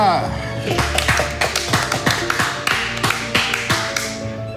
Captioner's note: all applauding